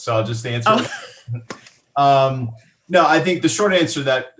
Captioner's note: chuckles